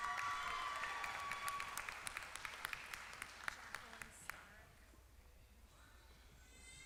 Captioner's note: applause